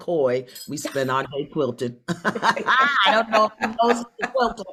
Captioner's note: both laugh